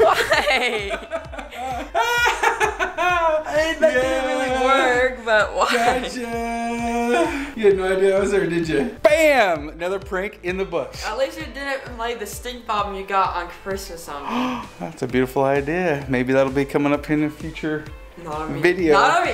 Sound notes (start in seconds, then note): 1.1 laughs